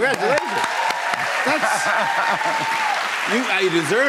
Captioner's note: cheers and applause